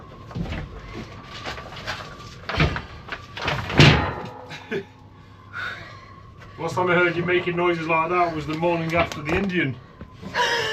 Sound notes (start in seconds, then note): 10.3 laughter